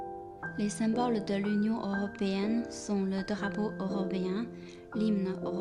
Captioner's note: French